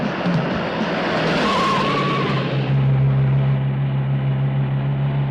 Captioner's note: tires screeching